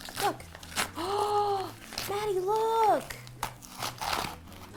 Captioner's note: gasping